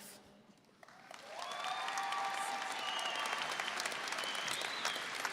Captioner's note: audience applauding